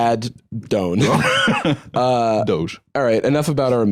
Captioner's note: laughs